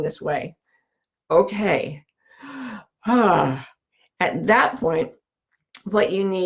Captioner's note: breathing deeply